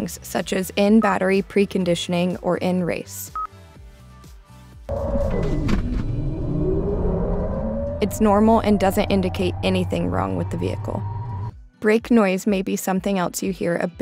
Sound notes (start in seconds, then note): 4.9 engine whirs